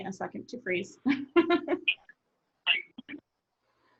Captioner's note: laughing